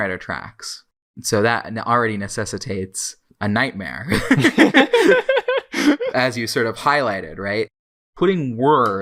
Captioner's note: both laugh